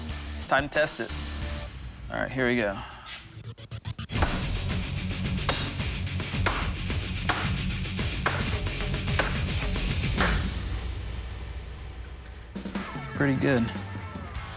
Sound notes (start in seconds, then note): 6.4 banging